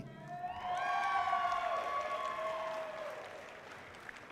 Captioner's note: audience cheering loudly